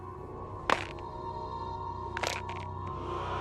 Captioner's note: creaks